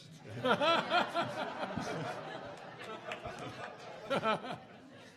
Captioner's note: audience laughing